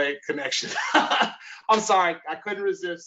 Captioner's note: laughs